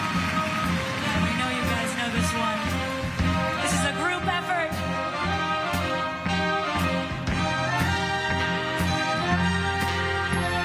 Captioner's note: crowd cheering